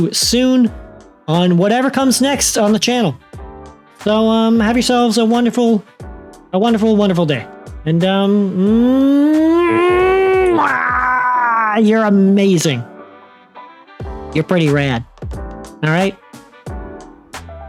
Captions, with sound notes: soon on whatever comes next on the channel. So have yourselves a wonderful a wonderful, wonderful day and (kissing sounds), you're amazing. You're pretty rad. All right,